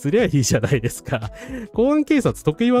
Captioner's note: laughter